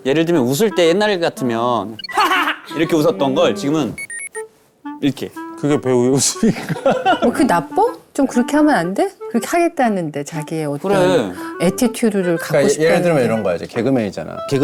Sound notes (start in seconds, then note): 6.4 actor's unusual laugh